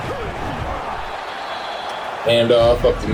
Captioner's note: crowd Noises